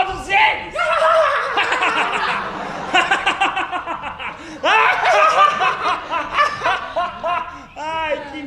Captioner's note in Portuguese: risadas vilanescas